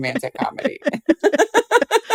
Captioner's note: laughter